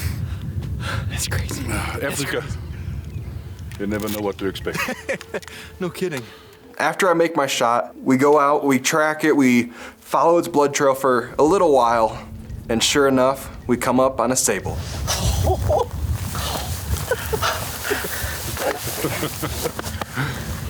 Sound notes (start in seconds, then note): 4.7 laughing; 14.9 laughing